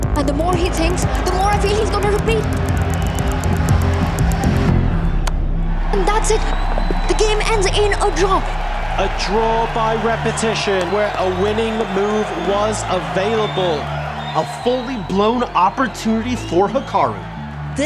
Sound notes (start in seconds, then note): 2.9 crowd cheering, applauding; 2.9 tense music builds